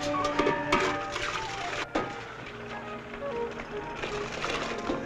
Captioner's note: coffee splashing